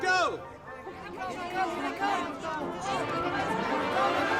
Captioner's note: children chattering; fast instrumental music